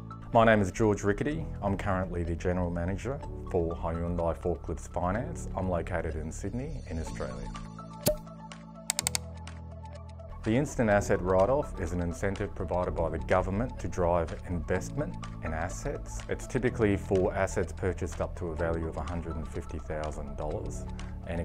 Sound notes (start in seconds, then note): 8.8 popping, clicking